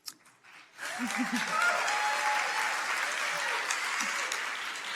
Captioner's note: audience cheering